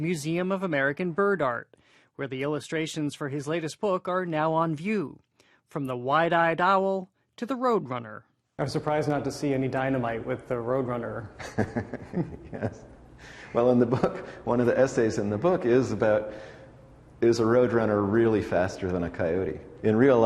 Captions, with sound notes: Museum of American Bird Art, where the illustrations for his latest book are now on view. From the wide-eyed owl... to the roadrunner. I was surprised not to see any dynamite with the roadrunner. >> (laughing) Yes. Well, in the book, one of the essays in the book is about, is a roadrunner really faster than a coyote?